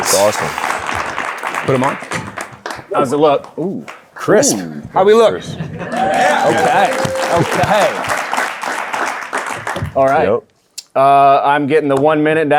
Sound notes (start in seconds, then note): 5.8 audience cheering; 5.8 audience applauding